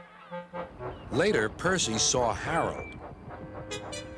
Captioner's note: peeps